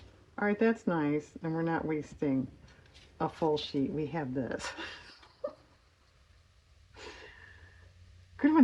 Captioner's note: laughs